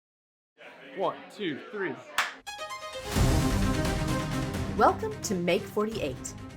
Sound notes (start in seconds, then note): 2.2 hand clapping; 2.4 upbeat dramatic music